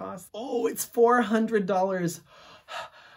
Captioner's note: gasps